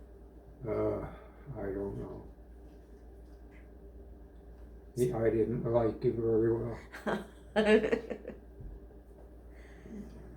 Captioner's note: laughter